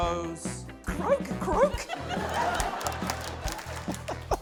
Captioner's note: laughter, applause; laughs